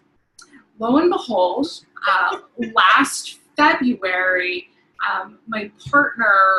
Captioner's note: laughing